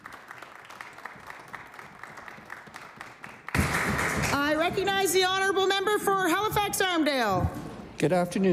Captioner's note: applause